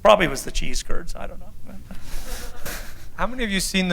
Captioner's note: laughter